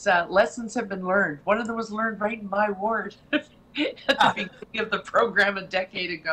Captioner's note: laughing